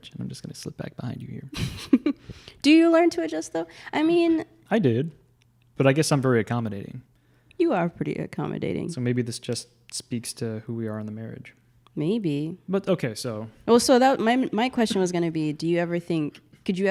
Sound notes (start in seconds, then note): 1.5 chuckles